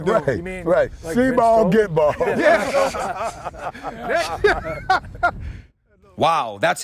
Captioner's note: laughter